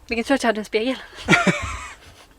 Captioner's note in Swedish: Skrattar